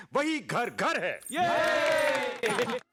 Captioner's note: clapping in ignorance